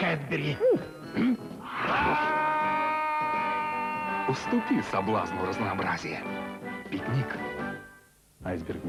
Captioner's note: shouts